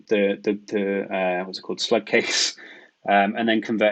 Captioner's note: chuckles